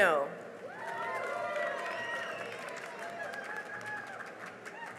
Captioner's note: cheering and applause